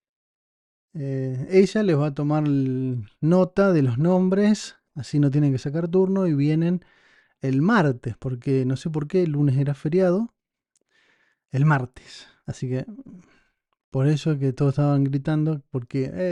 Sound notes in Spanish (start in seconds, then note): 12.9 carraspeo